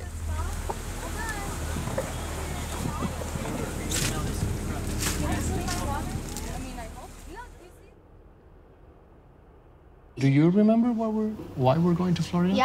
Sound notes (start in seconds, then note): 2.4 water splashing; 4.2 water burbling